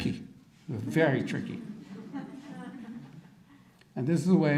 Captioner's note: audience chuckles